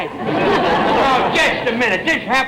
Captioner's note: audience laughter